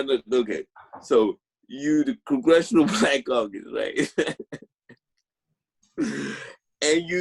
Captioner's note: laughing